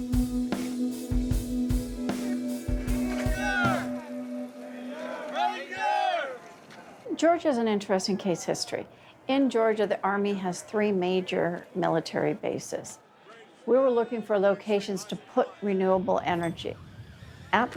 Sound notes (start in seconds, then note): 3.8 men shout "ranger"